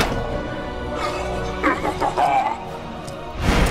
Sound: sinister Laugh

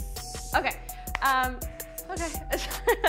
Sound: laughs

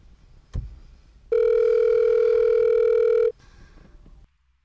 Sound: phone rings

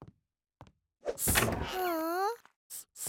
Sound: sniffling

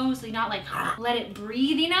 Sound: groans

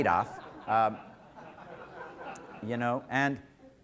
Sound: audience laughter

